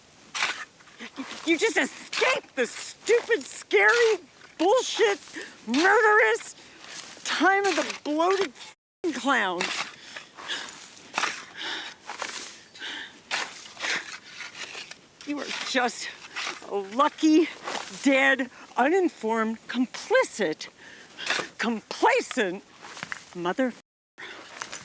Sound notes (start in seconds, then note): 9.9 breathing heavily